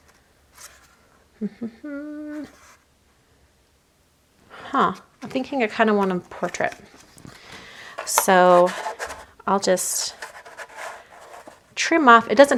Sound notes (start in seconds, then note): 1.4 humming